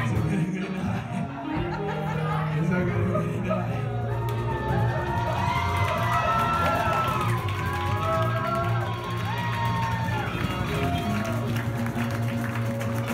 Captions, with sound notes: It's a goody, goody night. [laughter] It's a goody, goody night. [cheering]